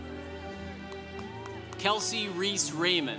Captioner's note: congregation cheering